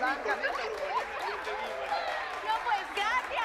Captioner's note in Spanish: Risas y aplausos